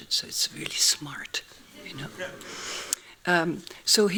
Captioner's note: laughing